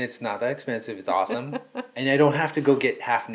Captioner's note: laughing